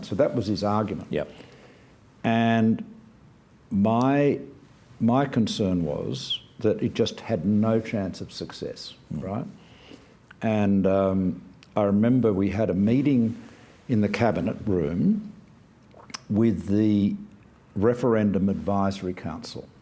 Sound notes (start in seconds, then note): none